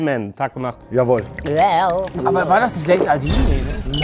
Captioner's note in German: Gluckernde Laute